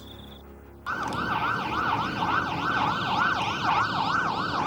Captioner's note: sirens wailing